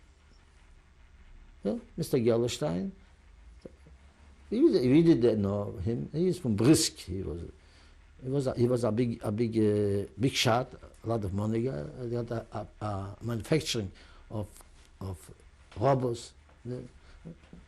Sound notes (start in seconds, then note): none